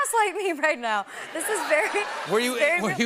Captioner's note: laughter